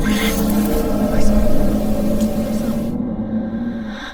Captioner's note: sasquatch howling